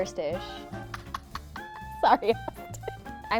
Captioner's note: both laughing